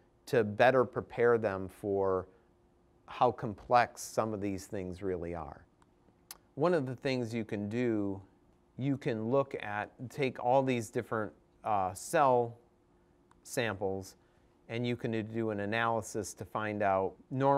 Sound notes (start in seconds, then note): none